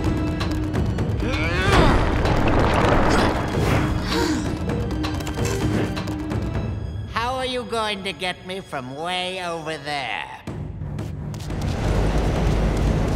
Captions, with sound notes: [gasping] How are you going to get me from way over there?